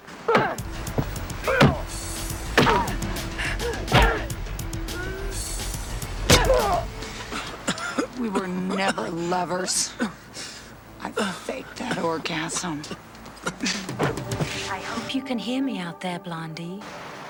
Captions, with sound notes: (suspenseful music) (punches thudding) (machete slicing) (Cole groaning) - We were never lovers. I faked that orgasm. - I hope you can hear me out there, Blondie.